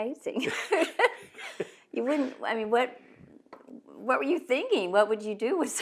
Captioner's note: laughter